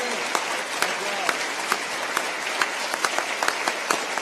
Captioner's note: applause